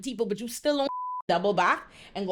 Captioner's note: beep